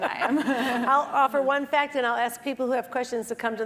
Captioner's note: laugh